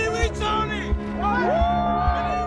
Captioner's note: cheering, yelling